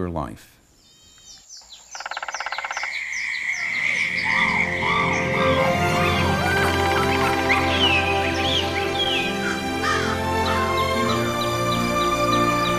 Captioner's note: birds, Insects, Animal Sounds, Music